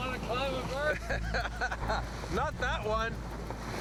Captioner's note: laughing